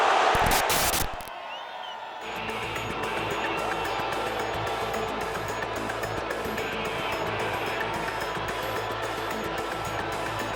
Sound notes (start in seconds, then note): 0.3 static hisses; 4.6 intense rock theme music